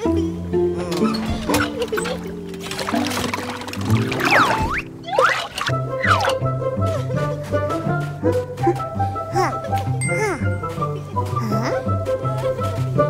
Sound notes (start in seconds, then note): 1.0 sound of the water